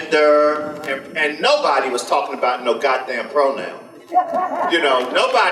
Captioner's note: audience laughter